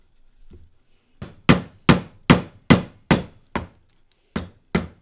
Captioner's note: hammer banging